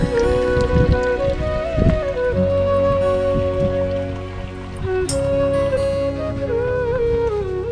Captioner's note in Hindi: पेय डालना